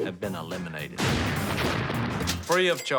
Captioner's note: explosion